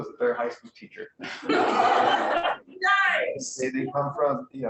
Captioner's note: laughter